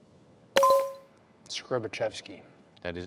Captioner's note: bell dinging